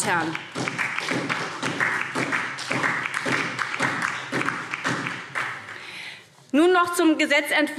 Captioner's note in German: Beifall SPD